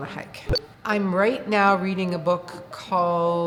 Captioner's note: beep